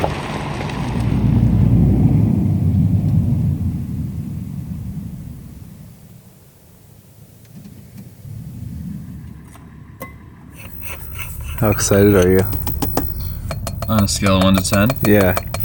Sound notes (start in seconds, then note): 0.7 car humming; 10.5 kettle scraping; 10.6 object rapping; 10.6 objects clanking